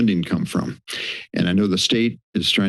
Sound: inhales

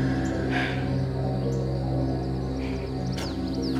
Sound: sighs

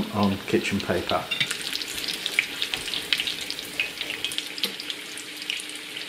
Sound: sizzling hot oil

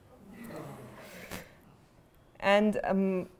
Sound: groaning

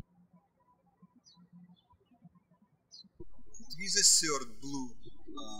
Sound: birds chirping

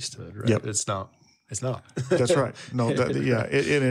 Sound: chuckles

